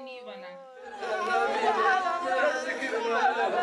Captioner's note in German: Lautes Stimmengewirr